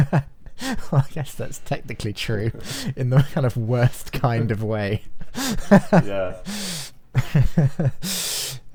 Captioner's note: laughing